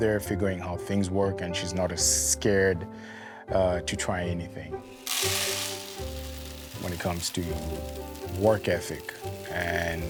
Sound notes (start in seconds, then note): 4.8 grain pouring